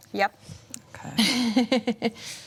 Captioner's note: chuckles